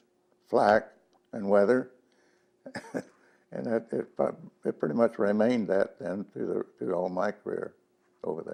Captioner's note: laughs